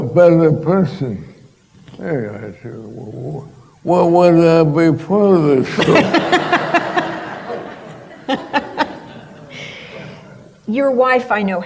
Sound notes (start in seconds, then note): 5.6 laughter